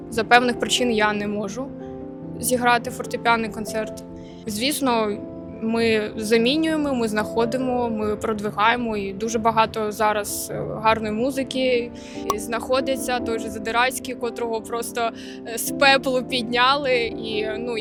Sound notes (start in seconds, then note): 10.3 Ukrainian